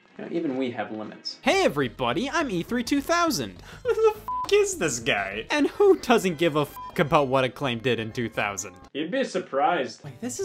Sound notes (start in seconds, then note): 4.2 beeps; 6.6 beeps